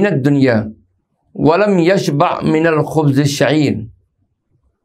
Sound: arabic

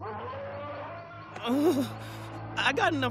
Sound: roaring

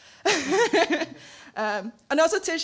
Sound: laughing

